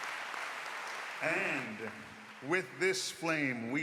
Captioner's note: applause